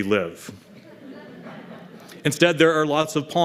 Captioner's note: laughter